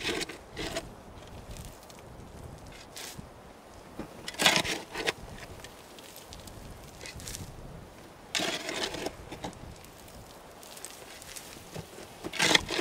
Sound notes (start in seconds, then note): 2.2 shoveling sounds